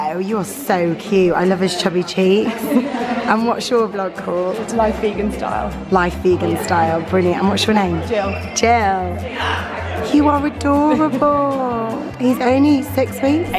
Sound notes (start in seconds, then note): 2.4 laughs